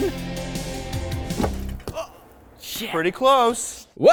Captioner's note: upbeat dance music continues; exclaiming